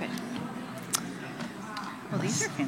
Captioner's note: non-english